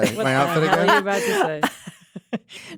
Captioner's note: laughs